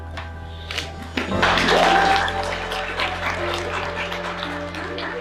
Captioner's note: cheering and applauding